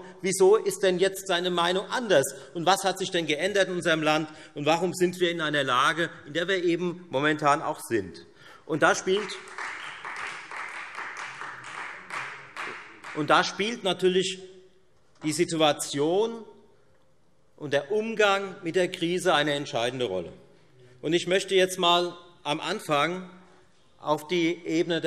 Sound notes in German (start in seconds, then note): 9.0 Beifall Freie Demokraten und vereinzelt AfD